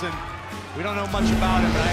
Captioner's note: bell ringing